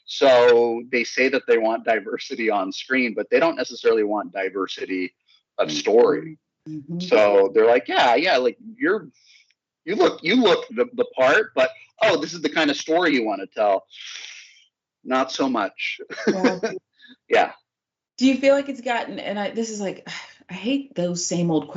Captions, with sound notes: So they say that they want diversity on screen, but they don't necessarily want diversity of story. So they're like, yeah, you look the part, but this is the kind of story you wanna tell. Not so much, [LAUGH], yeah. >> Do you feel like it's gotten and this is like I hate those same old questions,